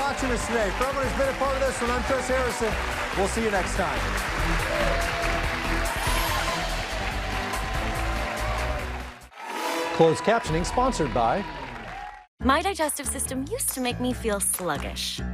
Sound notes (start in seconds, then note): 4.4 cheers and applause; 6.1 dramatic music